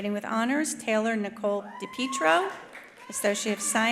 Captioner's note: attendee cheering